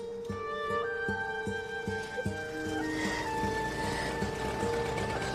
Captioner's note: sobbing; engine approaches